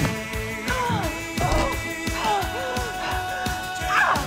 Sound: grunting, breathing heavily

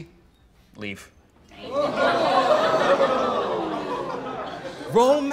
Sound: crowd

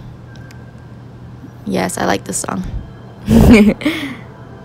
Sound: laughs

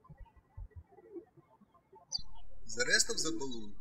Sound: birds chirping

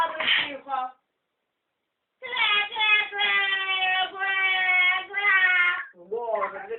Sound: crying

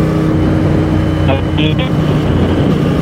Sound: distorted audio

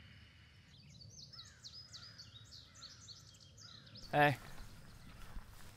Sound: birds chirping; crows cawing

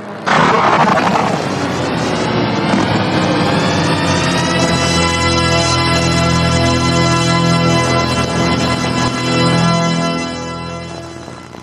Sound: snort groans and crying

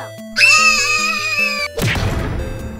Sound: Pink and purple scream

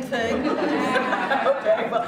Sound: laughter

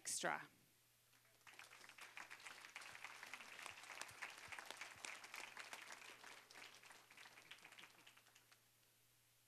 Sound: applause

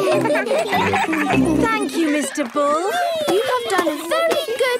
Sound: giggling

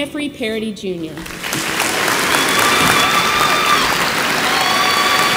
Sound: audience applauds

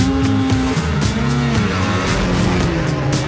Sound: engine revs

